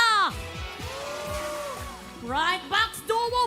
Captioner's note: audience cheering